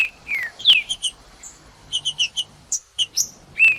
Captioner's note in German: trinca ferro cantando